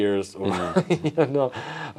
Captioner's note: laughs